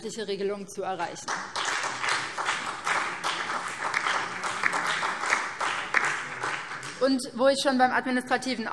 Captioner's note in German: Beifall BÜNDNIS 90/DIE GRÜNEN, vereinzelt SPD und DIE LINKE